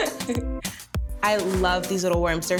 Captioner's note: laughing